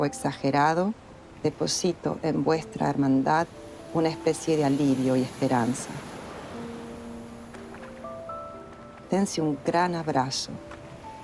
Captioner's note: speaking in Spanish